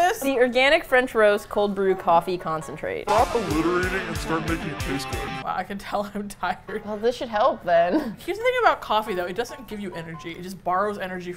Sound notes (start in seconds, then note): 3.0 metal music; 5.3 chuckling; 7.8 laughs